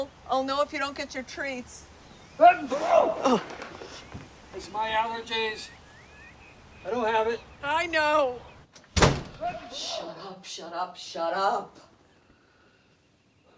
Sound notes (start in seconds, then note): 2.7 sneezing loudly; 9.4 loud sneezing